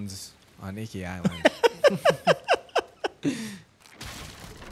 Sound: both laughing

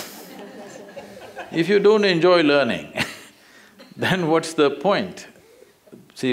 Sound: laughter; laughs

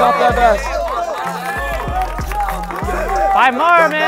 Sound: crowd cheering indistinct and clapping hands

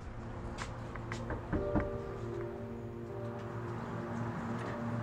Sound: door knocks

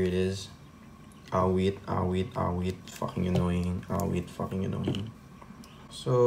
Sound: expressing annoyance

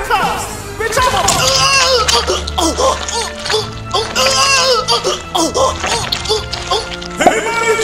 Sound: Meek Mill screaming in agony

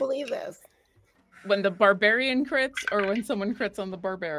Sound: dice clatter

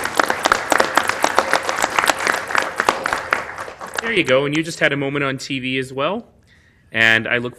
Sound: applause

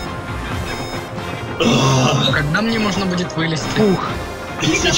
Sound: exhales

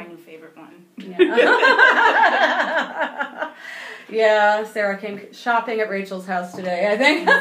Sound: laughing

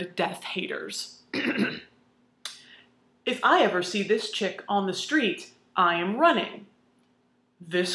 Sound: ahem

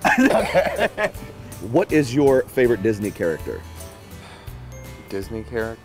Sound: laughter

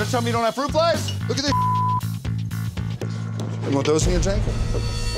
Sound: beep

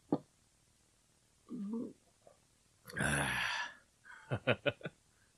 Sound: SFX: drink and gasp

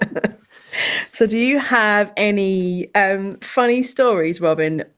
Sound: laughter

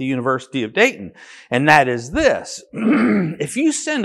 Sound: coughs

